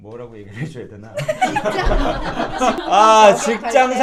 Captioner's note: laughing